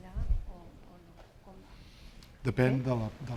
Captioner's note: speaking spanish